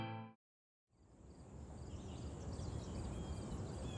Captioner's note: birds chirping sweetly